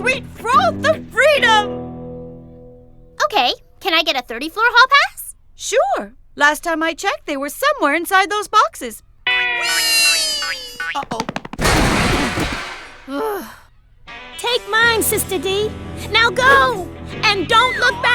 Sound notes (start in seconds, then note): 10.4 crashes; 11.8 groans